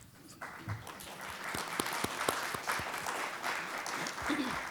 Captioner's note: audience applauding